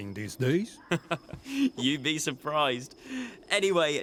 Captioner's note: chuckles